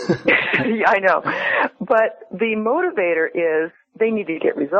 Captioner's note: chuckles